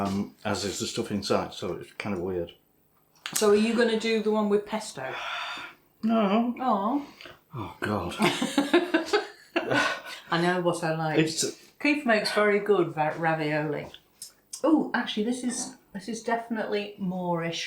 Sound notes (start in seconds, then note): 8.1 laughs